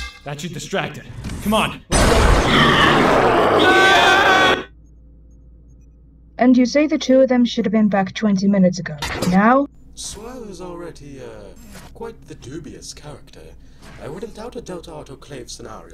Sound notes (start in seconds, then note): 2.3 guttural screech; 3.6 both scream!